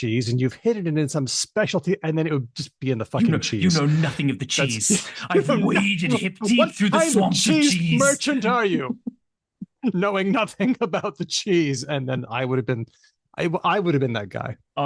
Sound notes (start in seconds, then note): 8.0 shouting